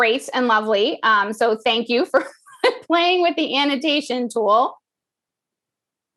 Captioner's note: laugh